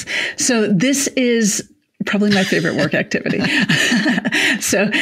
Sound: chuckles

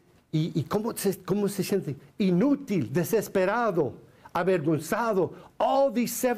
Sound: foreign Language

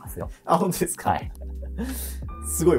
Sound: laughs

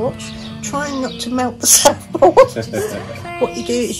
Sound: laughing

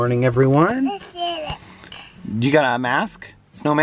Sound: babbles

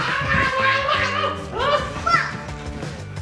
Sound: screams

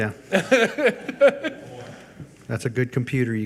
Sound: laughs

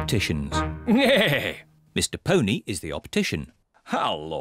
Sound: neighs

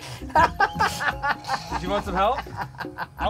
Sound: laughs

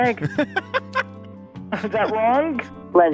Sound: laughs

